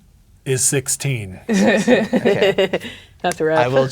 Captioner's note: laughing